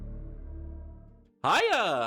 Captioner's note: evil laugh